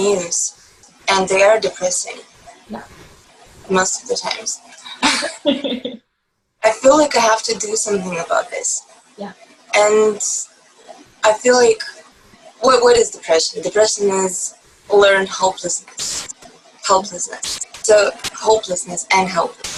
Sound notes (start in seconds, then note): 4.8 laugh